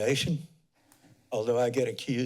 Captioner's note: pause